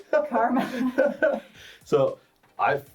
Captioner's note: laughs; chuckles